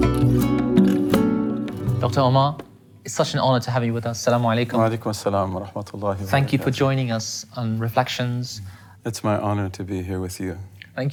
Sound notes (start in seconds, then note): 5.8 Arabic speaking